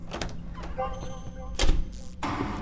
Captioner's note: lights powering on; electric sparks